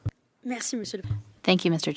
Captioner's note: speaking French